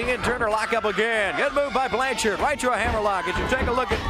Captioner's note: crowd cheering